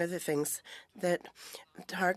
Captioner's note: speaking in French